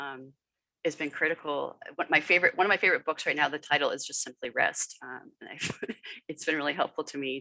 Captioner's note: laughter